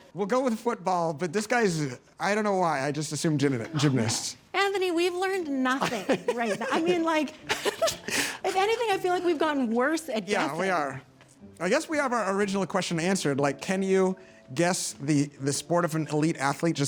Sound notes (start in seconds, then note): 5.7 laughs